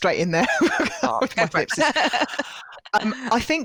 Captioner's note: laughing